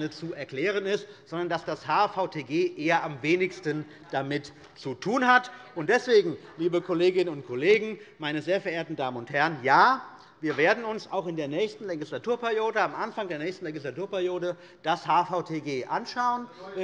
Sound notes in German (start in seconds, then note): 5.6 Beifall bei Abgeordneten der CDU